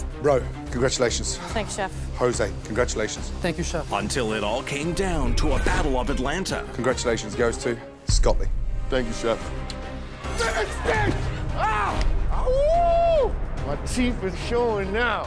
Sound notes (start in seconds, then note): 10.3 yelling loudly; 12.2 howling